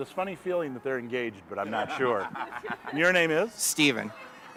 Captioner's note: students laughing